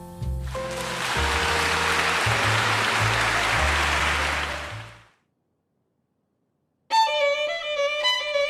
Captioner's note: Rei stands upon the stage to thundering applause, and he begins to play